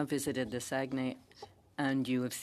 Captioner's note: speaking French